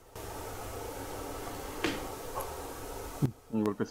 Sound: bangs

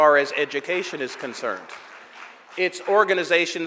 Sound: audience applauding

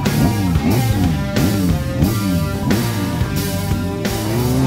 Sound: engine Revving

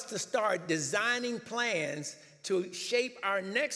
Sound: none

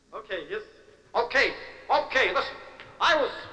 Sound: imitating tony

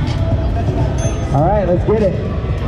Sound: ding

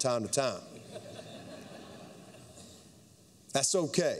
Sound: laughter

